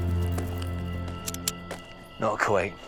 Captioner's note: cocks gun